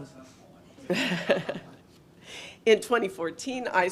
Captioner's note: laughs